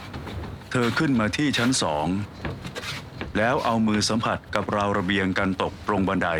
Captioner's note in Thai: เสียงเดิน